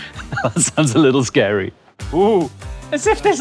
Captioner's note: laughs